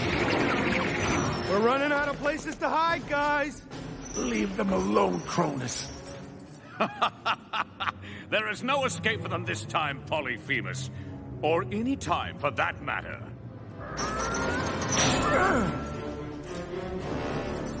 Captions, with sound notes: We're running out of places to hide, guys! Leave them alone, Cronus! (Evil laughter) There is no escape for them this time Polyphemus. Or any time, for that matter. (Grunting)